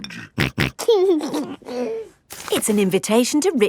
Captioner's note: snorting and giggling